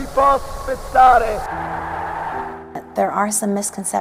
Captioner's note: crowd cheering